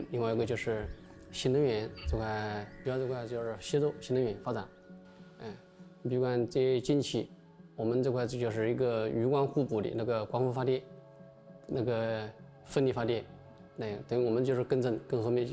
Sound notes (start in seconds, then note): 0.2 speaking chinese